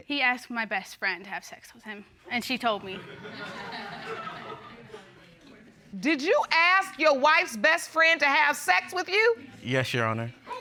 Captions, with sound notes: He asked my best friend to have sex with him -and she told me. -[audience laughing] Did you ask your wife's best friend -to have sex with you? -Yes, Your Honor.